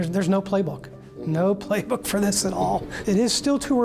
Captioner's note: chuckles